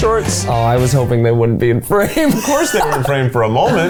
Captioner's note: laughs